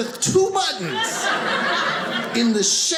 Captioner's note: audience laughing